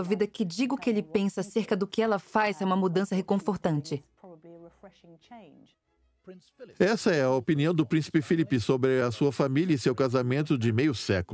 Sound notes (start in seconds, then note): 5.9 voiceover